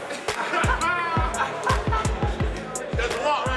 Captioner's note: hip hop music; laughter